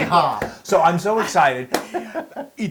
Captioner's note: laugh